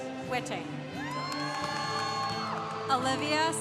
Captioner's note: congregation cheering